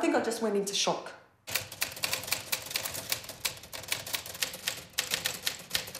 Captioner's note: typewriter clicking